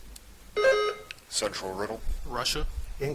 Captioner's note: buzzer chiming